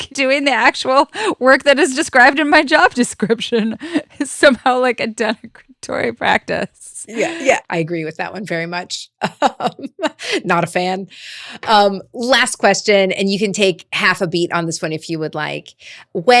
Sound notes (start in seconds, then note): 9.5 presenter laughing